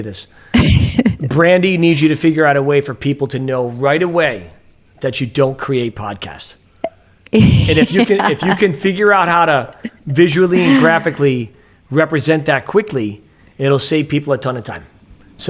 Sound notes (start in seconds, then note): 7.3 laughs